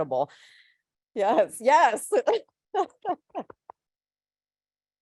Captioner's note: laughs